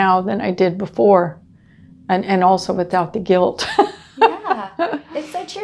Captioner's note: laughing